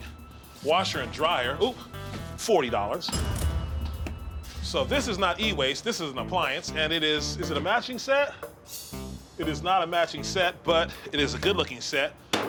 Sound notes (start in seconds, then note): 3.1 cash register dings